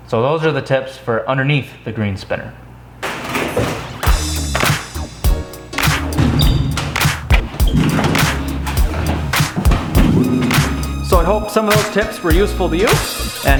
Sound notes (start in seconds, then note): 3.2 metal clacking; 4.0 funky upbeat music